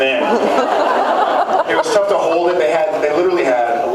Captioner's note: laughs